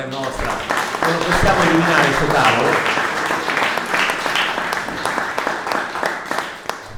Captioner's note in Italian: applausi